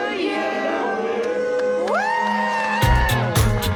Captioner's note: people exclaiming; upbeat music